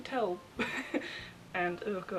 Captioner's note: laughs